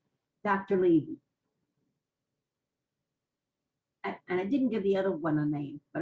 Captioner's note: pauses for 3 seconds